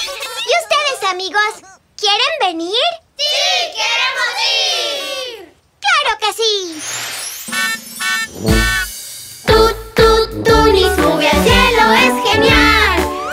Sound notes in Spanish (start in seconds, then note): 0.0 Risas; 8.0 Sonido de bocina